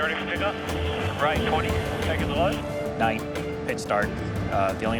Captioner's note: transmission talking